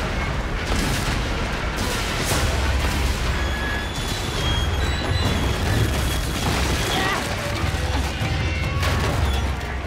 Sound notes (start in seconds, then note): 1.9 explosions booming; 3.3 metal creaking; 3.3 wood crumbling